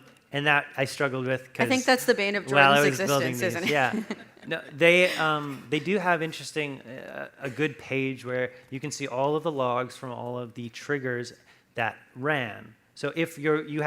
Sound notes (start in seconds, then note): 2.5 laughs